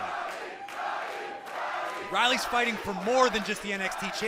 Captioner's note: fans chanting